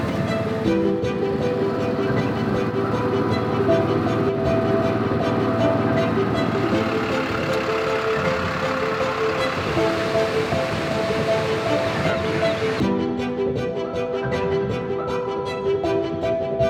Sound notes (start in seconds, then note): 7.3 engine rumbling; 13.0 upbeat music continues